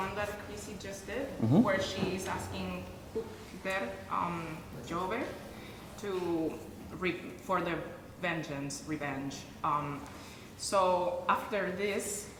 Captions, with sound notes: that Chrissy just did where she's asking [SPEAKING IN A FOREIGN LANGUAGE] to reap for the vengeance, revenge, so after this,